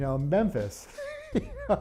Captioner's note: laughter